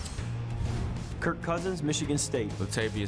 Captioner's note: swoosh